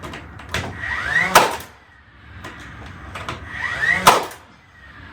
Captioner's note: drill revving